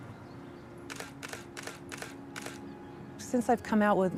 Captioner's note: shutter clicks